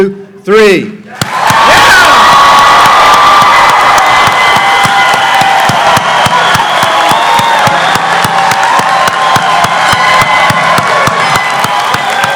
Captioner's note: clapping